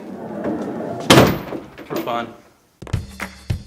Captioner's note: door sliding shut; upbeat music